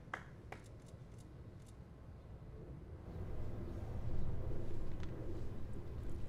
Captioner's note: applause